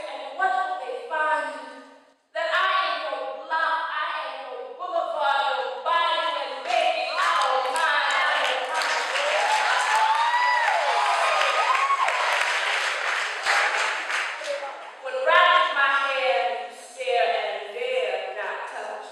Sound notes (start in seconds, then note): 10.2 applause